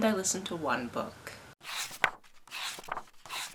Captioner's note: pages turning